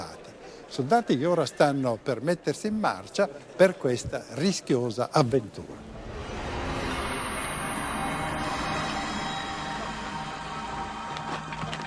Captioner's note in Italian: Applauso